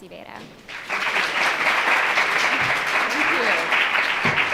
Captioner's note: audience applauds